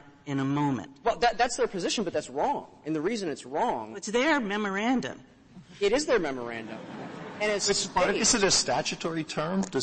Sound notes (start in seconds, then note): 6.6 laughter